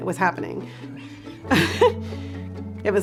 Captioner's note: laughter